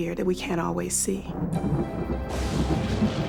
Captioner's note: thunder